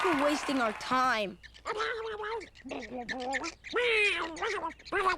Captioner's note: squirrels chirping